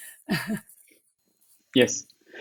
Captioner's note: laughing